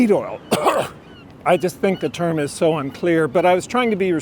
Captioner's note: cough